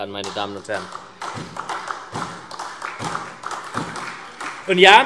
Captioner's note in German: Beifall SPD